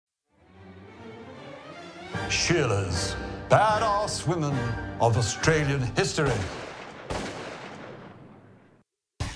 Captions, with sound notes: Badass women of Australian history. (gun shots)